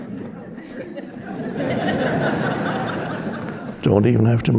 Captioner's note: audience laughing